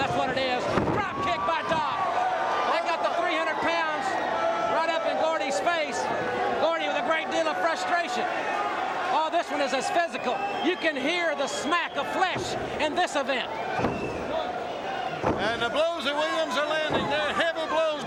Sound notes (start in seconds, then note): 3.2 crowd cheering; 14.1 crowd chatter